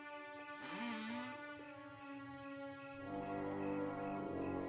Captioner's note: door creaking; foreboding music